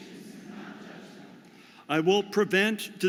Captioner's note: audience repeats